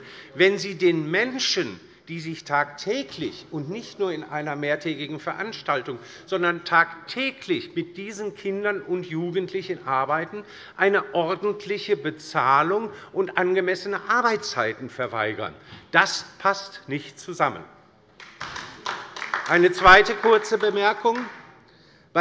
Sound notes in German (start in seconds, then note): 18.2 Beifall bei der LINKEN